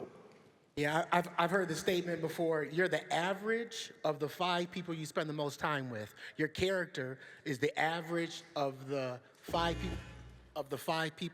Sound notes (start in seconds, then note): none